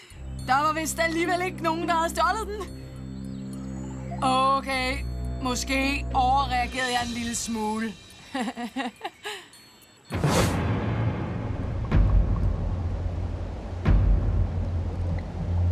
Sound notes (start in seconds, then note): 8.2 chuckling